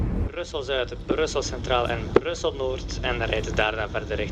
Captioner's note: train announcements in Flemish then in French